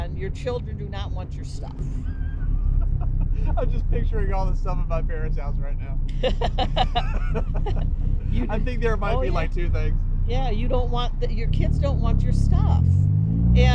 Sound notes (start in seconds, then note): 2.0 laughing